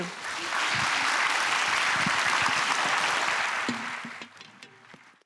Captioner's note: audience applauding